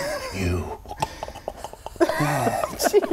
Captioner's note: clicking snuffling noises